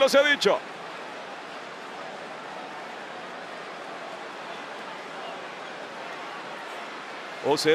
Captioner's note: applause